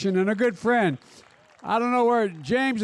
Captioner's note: applause